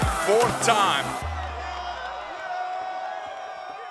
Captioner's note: cheering